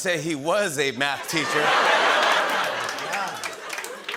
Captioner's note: laughter